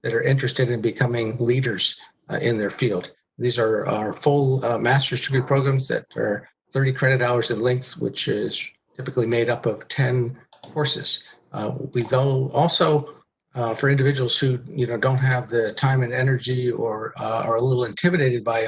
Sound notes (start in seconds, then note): 11.5 murmurs